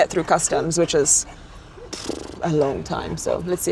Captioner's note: huffs